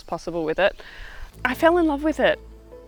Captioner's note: birds Chirping